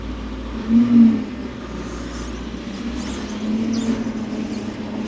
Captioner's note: telehandler whirring